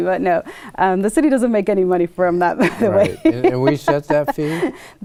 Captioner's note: laughs